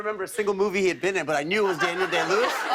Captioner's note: laughter